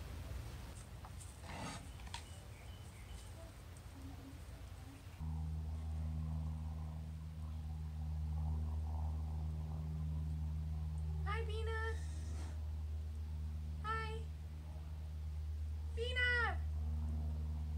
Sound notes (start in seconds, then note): 1.1 scrape; 2.8 wind